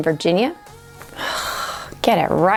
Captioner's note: sighing